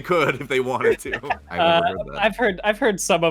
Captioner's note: laughs